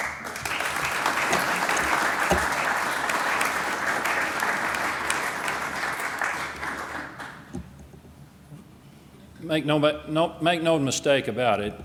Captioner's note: applause